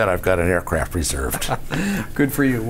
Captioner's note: laughs